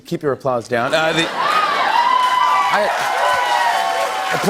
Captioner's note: cheers and applause